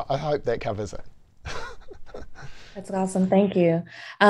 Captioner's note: laugh